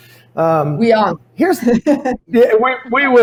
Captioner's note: laughs